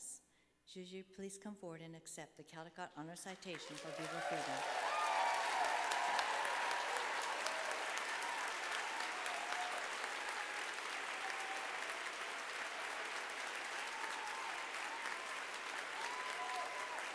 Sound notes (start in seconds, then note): 3.3 applause